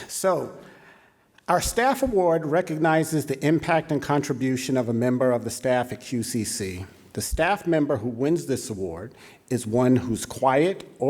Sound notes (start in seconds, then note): none